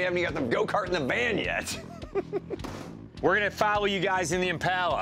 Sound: laughs

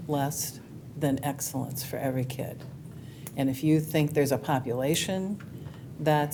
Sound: none

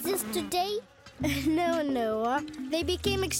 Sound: chuckles

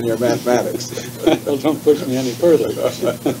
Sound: laughter

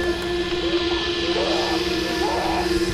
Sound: shrieking

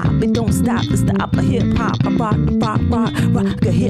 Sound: beatboxing

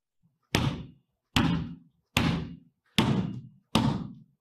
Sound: floor thudding

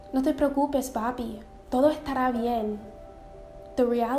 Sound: speaking in foreign language

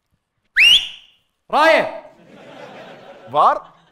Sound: whistles

